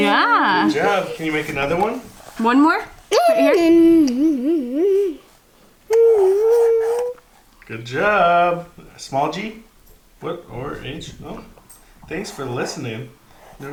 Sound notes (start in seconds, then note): 3.8 mumbles and clicks